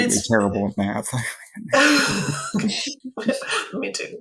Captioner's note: laughs